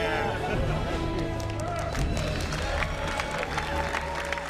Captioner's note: all clapping and cheering